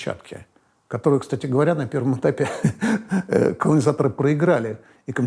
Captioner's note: chuckles